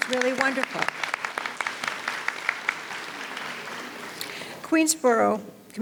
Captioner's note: audience applauds